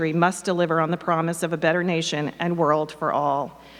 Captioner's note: none